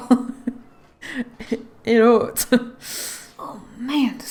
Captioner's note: laughs